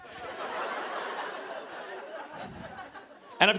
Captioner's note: laughter